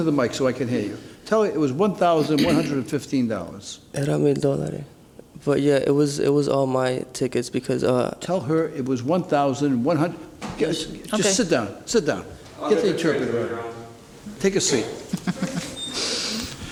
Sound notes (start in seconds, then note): 0.0 murmuring; 4.4 speaks Spanish